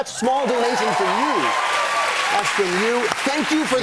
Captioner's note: cheers and applause